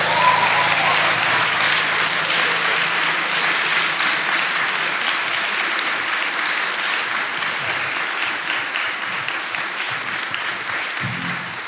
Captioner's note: applause